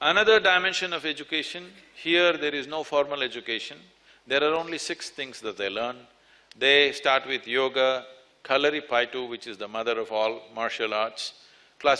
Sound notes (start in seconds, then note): none